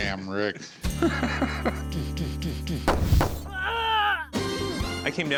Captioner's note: laughing; imitates gunfire